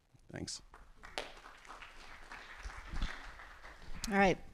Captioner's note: applause